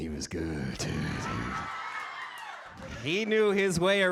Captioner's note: audience cheers